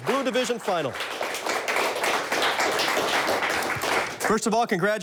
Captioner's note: audience applauds